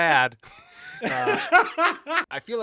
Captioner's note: laughing